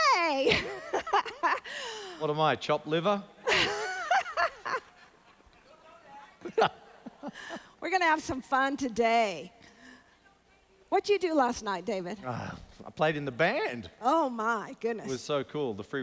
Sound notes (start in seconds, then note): 0.9 laughs; 3.4 laughs; 6.0 audience chattering; 6.8 laughs